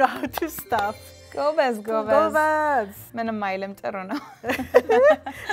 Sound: speaking Amharic

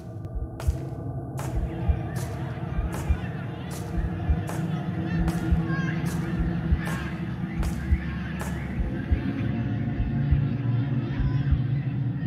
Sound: children laughing

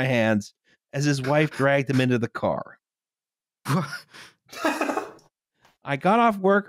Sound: sparse laughter

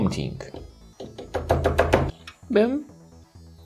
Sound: thunking

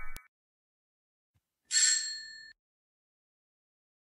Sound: ringing bell

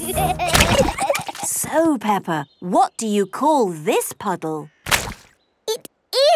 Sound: giggling

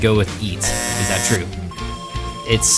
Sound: buzzer buzzing

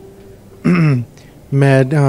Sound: clears throat

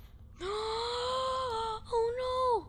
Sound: gasps

